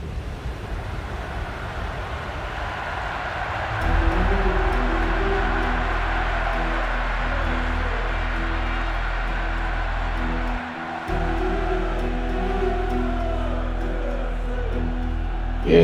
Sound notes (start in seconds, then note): 2.7 applause; 2.8 cheering